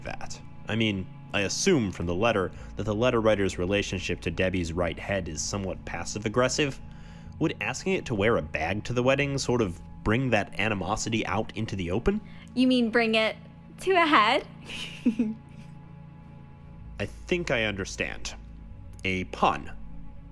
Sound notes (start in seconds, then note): 14.6 laughs awkwardly; 16.1 long pause